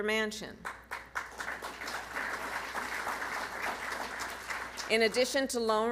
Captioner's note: applause